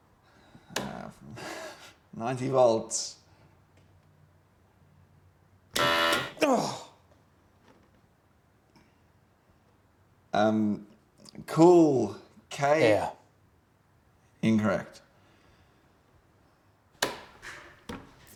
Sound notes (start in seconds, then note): 5.7 machine blaring; 6.4 grunting